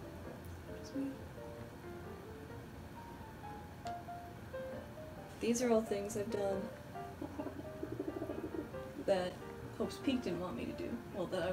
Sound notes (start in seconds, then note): 0.7 quietly